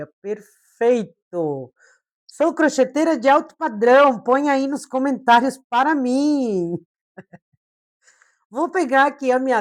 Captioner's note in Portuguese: risadas